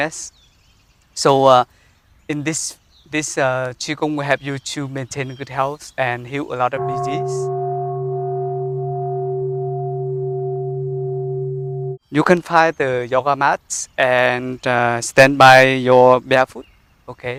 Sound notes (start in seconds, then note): 6.8 sound of the bell